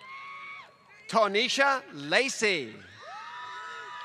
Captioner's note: applause